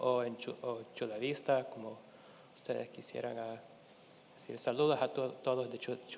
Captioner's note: speaking in Spanish continues